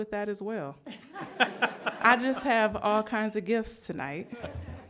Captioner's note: laughter